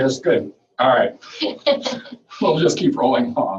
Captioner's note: laughing